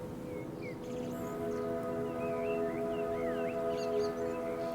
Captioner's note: birds chirping